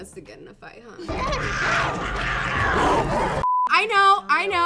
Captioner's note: wild animals fighting, growling; beep